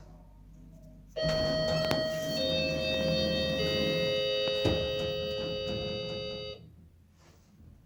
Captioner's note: door Chimes